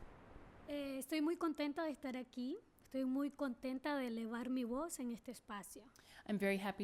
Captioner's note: speaking spanish